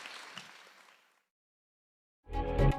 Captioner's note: applause